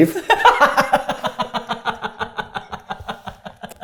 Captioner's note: both laughing